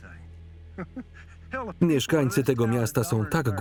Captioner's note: chuckling